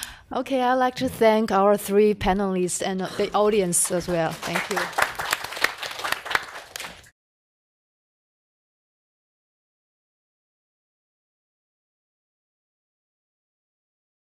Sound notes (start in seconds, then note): 5.3 audience applauds